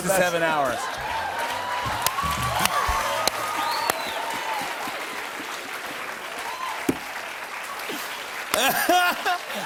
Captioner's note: cheers and applause